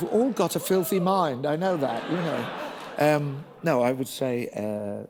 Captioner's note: laughter